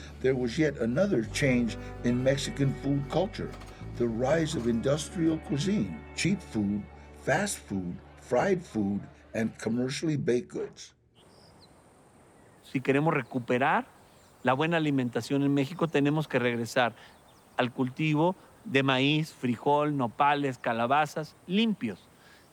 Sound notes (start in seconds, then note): 11.1 bird chirps; 12.7 in Spanish